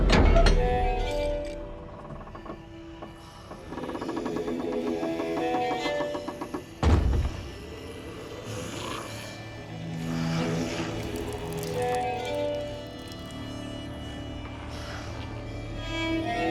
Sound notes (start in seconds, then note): 0.0 door creaking; 0.3 pensive music; 7.9 Strigoi snarling